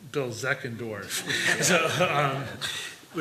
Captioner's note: laughter